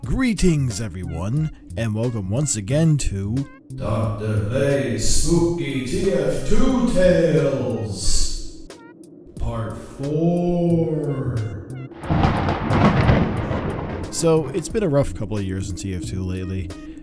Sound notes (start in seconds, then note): 3.6 reading the title, accompanied by reverb; 11.9 thunderclap